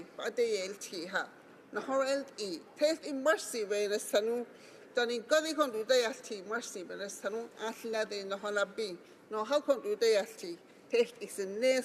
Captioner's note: speaking Alternate Language